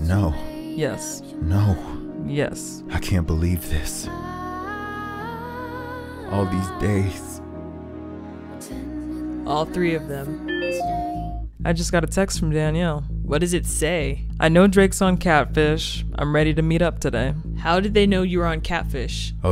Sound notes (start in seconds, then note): 10.5 phone chimes